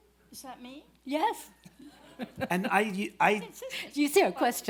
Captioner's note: laughs